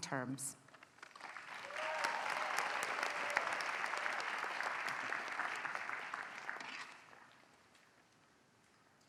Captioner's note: applause